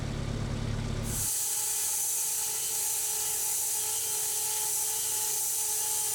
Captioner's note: electric saw screeching